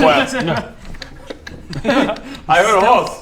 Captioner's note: clip-clop clip-clop clip-clop